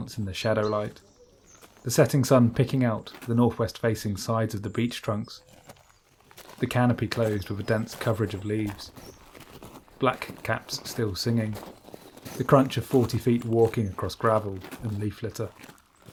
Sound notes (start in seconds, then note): 0.0 sound of footsteps on gravel; 7.7 evening birds singing